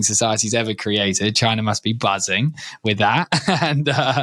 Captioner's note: laughs